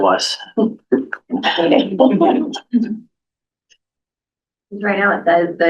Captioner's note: laughter